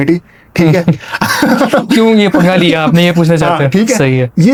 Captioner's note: laughter